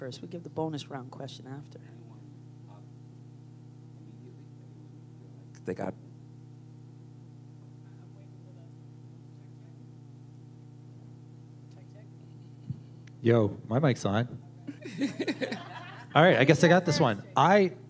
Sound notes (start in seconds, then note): 2.2 muted audio; 14.7 laughter